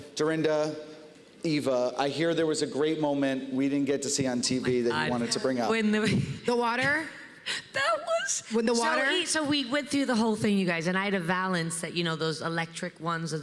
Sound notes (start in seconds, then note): 6.6 laughs